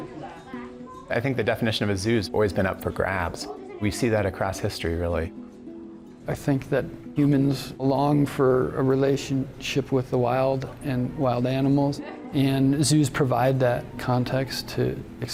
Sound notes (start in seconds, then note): 11.5 background chattering